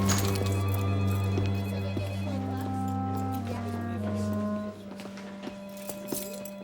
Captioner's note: police sirens; phones ringing; chattering